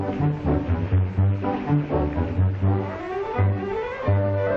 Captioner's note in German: Wasser spritzt